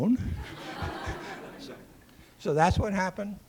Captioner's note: laughter